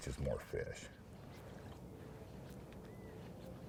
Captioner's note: fish splashing